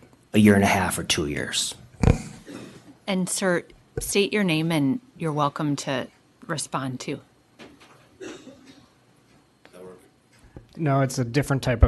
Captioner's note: clears throat